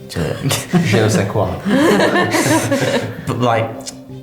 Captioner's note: laughing